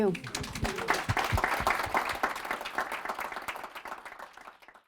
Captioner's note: applause